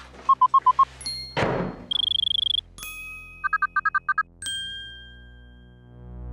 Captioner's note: ringing